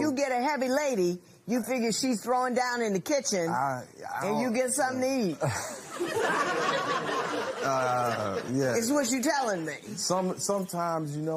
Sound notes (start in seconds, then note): 5.4 laughter